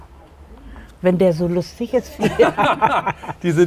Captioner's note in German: Lachen